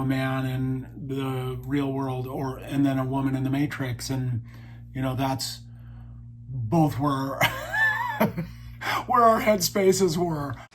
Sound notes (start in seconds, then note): 7.4 laughs